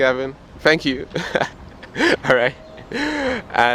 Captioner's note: laughs